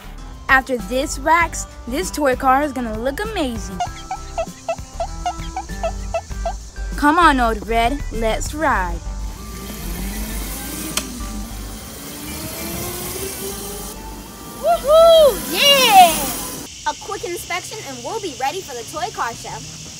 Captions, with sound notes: After this wax, this toy car's gonna look amazing. (squeaking) Come on, Old Red, let's ride. (motor racing) Woohoo, yeah! - A quick inspection and we'll be ready for the toy car show.